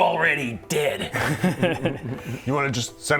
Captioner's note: mischievous giggle